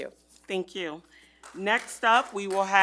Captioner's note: group applauding